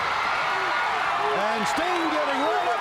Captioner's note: crowd cheering